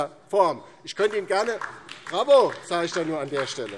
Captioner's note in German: Beifall DIE LINKE